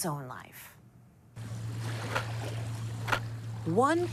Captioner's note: camera clicking; water lapping